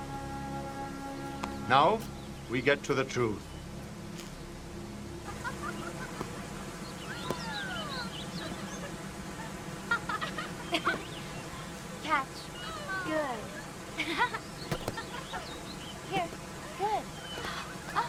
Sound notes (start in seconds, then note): 5.2 laughing; 5.3 water running; 14.1 laughs